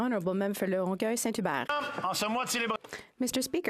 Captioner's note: some Applause